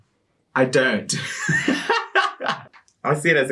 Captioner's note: laughs